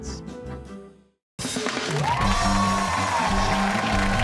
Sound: cheers and applause

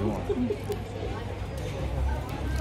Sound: laughing

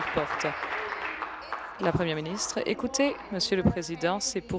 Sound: applause

